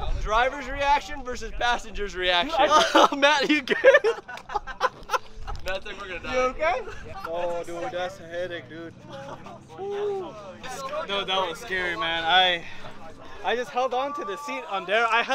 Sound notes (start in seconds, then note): 0.0 men laughing; 4.1 driver laughing